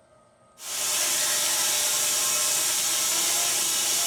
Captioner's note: saw buzzing